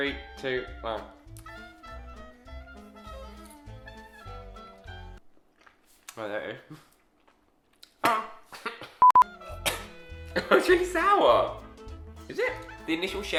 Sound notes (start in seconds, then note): 9.0 beeps; 10.3 coughs